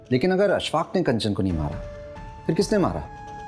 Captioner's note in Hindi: none